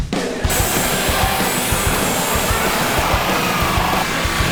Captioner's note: upbeat rock music; power tools whirring